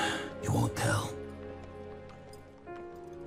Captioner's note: sighs